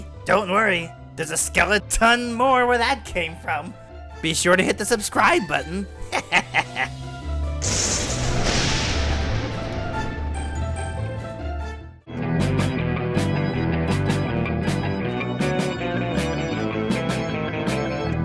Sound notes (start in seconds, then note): 7.5 lightning crash; 12.1 rockabilly music